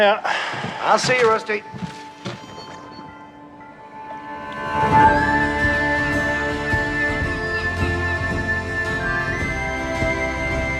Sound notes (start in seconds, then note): 4.5 irish music; 7.5 seagulls cawing